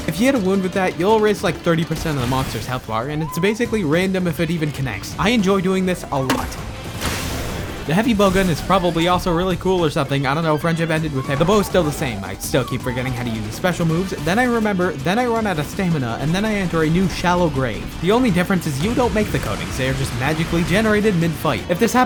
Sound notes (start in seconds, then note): 6.3 thoomp